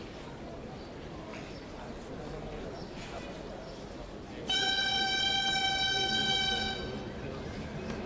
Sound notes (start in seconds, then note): 4.4 horns blowing